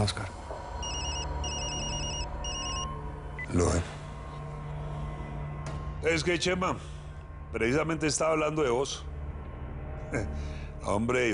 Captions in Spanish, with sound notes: - SI, DON OSCAR. [Suena el celular] - VELO AHI. ¿ENTONCES QUE, CHEMA? PRECISAMENTE ESTABA HABLANDO DE VOS.